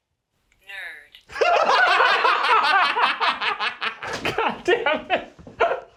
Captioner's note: laugh